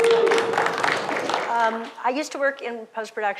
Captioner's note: applause